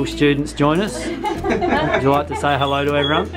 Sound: laughing

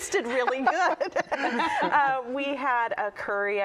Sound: laughter

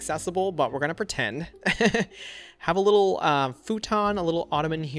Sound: laughs

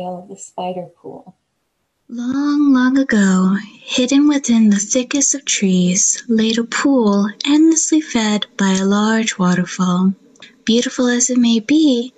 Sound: pre-recorded voice

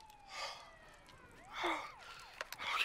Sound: sirens nearing

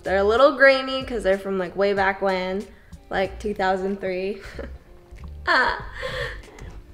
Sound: laughs

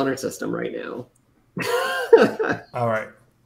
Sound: laughs

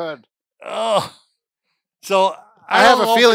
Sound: grunts

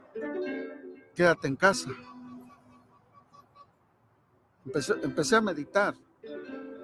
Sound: speaking in foreign language

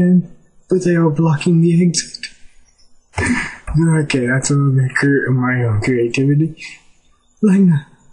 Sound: mubbling

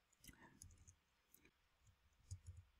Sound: typing

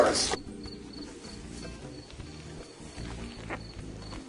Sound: crickets chirping

